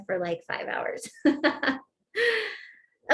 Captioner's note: laughter